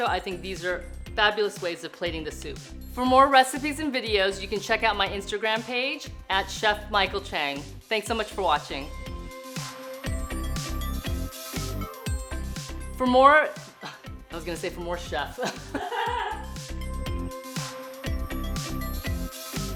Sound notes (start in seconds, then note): 15.4 woman laughs; 15.4 laughs